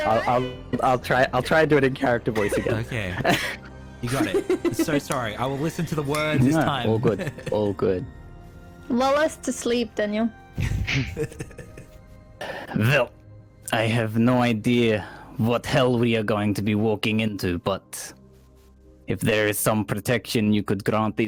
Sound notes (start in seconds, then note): 10.7 laughs